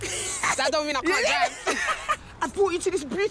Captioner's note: laughing